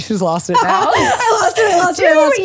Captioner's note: laughs